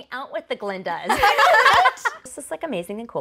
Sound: laughing

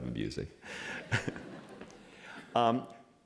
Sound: laughter

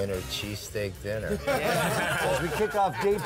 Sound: laughing

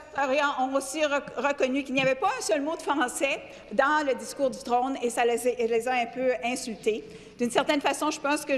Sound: speaking French

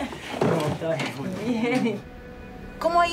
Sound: laughs

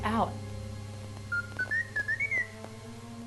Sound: T3 somberly beeping

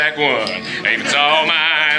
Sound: audience Laughing

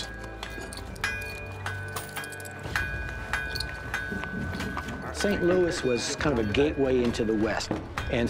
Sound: metal pounding

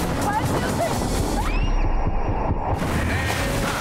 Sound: both screaming; water splashing

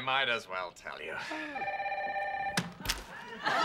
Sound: phone rings

